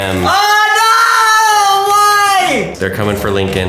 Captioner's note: screaming